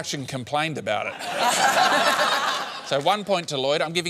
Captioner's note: laughter